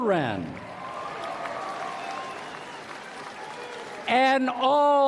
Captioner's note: applause